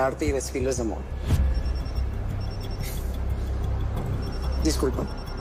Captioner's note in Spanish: Suena el celular